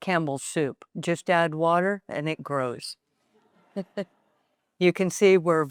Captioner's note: chuckles